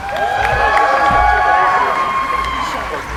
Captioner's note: cheering